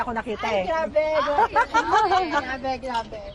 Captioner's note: laughing